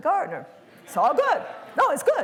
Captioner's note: laughter